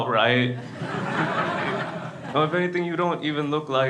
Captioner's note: crowd laughs